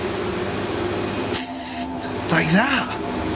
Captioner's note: hissing